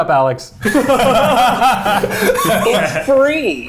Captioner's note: everyone laughing